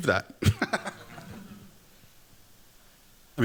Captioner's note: chuckles